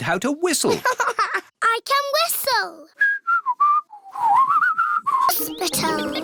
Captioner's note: laughs; whistles